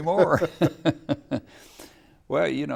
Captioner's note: laughing